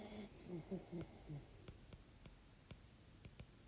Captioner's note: puppy snoring